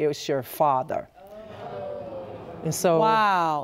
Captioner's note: audience gasping